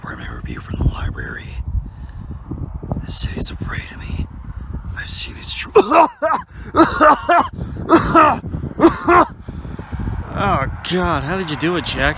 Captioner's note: coughing fit